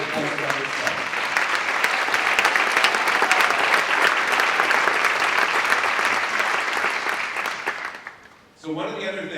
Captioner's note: applause